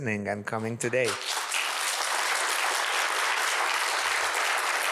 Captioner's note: audience applauds